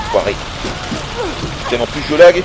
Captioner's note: none